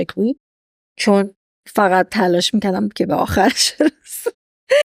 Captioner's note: laughs